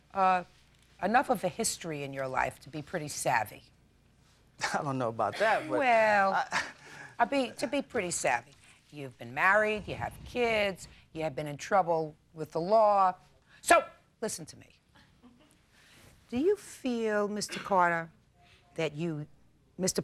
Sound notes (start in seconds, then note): 5.6 chuckling